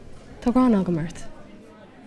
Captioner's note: in irish